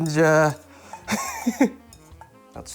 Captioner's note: chuckles